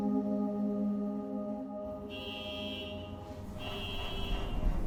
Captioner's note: car alarm going off